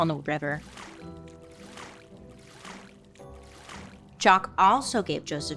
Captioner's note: water splashing